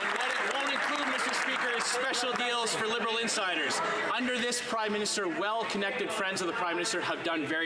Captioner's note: applause